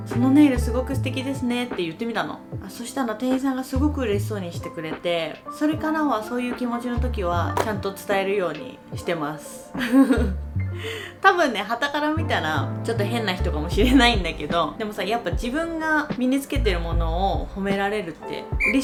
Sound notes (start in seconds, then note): 14.2 laughs